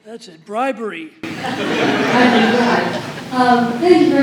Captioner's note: laughter